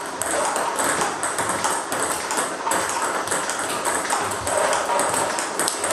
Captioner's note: ball ping pong hitting continues